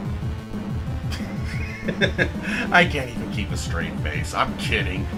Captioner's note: laughs